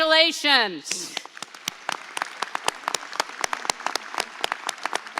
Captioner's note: audience applauds